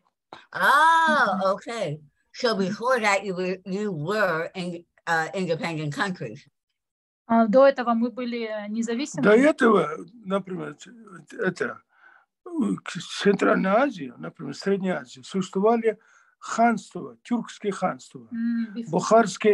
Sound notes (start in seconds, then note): 7.6 asking question in Russian to father; 13.9 in Russian